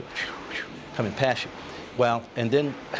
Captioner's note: makes whooshing sound